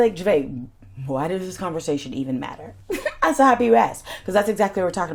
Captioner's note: chuckles